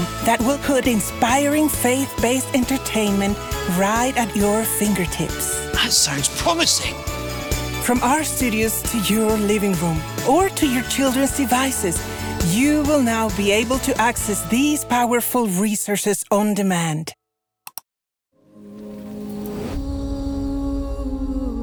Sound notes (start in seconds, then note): 17.6 mouse clicks; 18.4 gentle music